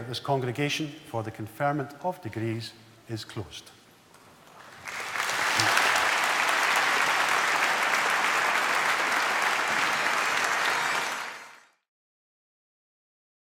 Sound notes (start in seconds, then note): 4.5 applause